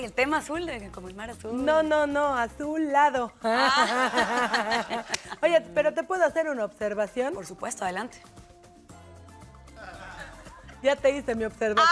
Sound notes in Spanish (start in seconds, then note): 9.1 Risas